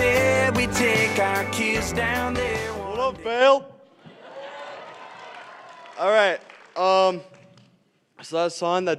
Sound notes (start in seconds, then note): 2.5 applause